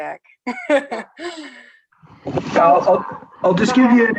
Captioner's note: laughs